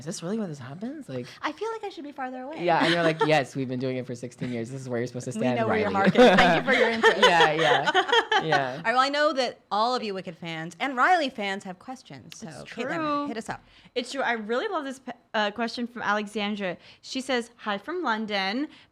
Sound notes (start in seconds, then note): 9.6 laughing